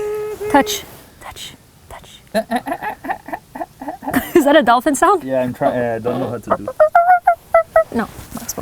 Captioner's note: mimicking dolphin